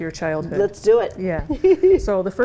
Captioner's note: chuckles